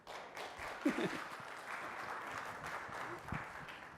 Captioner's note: applause